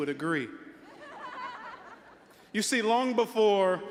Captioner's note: all laughing